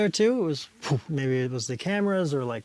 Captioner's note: explosion